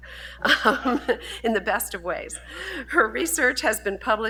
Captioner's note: laughs